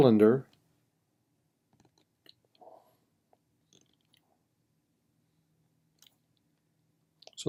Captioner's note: typing